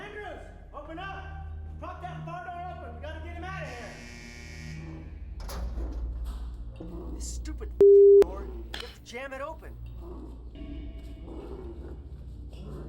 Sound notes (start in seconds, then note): 3.9 buzzer; 10.5 dramatic music